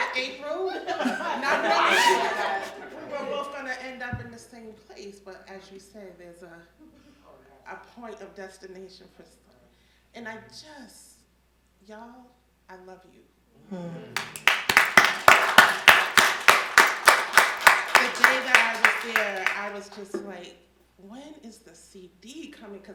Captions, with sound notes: with April, not knowing we were both gonna end up in the same place, but as you said, there's a point of destination. And I just, y'all, I love you. (the audience applauding) The day that I was there, I was just like, when is the CD coming?